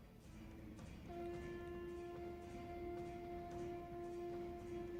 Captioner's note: conch blows